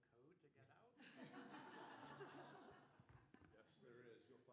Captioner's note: laughter